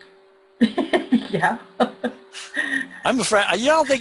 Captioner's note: laughs